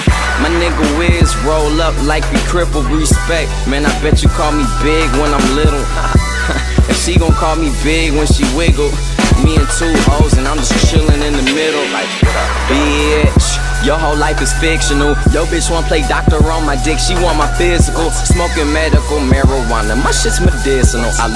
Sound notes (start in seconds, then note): 4.8 haha